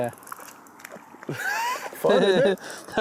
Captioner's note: laughs